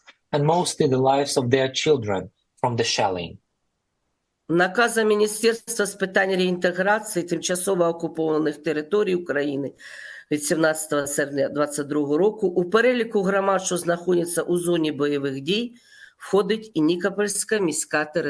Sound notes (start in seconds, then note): 4.1 foreign language